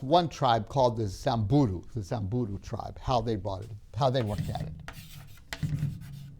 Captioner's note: chalk scraping